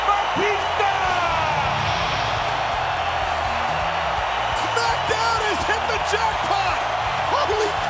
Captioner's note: applause